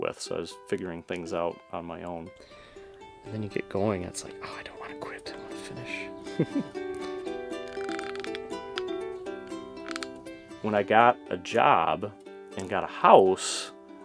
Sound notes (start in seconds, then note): 9.0 laughs; 9.8 chiming music